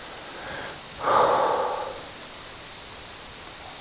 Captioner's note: big exhale; wind